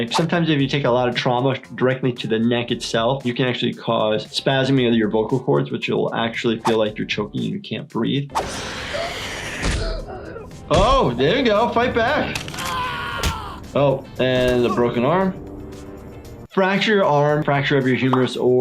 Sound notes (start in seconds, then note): 8.5 Springtrap growling